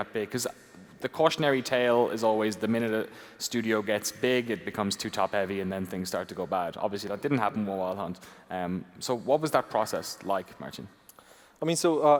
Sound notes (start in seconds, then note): none